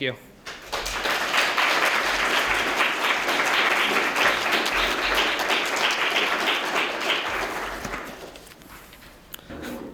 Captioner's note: applause